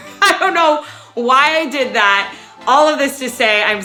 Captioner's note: laughs